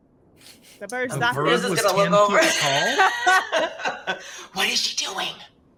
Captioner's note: laugh